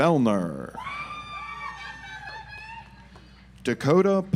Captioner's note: audience applauds